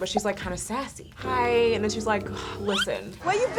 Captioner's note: sighs